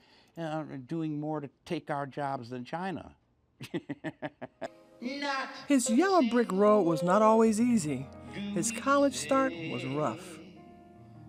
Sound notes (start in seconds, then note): 7.2 chuckles